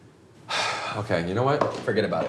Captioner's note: sighs